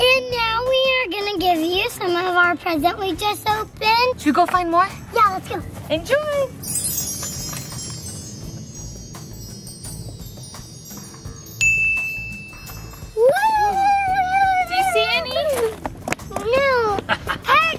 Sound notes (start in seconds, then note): 6.6 twinkling; 17.0 laughs